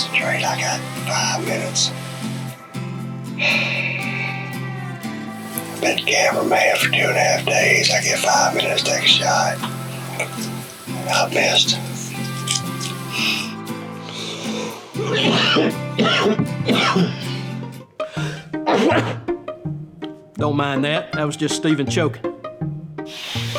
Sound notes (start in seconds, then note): 3.3 sighs; 14.9 coughs